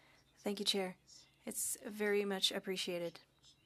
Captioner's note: speaking French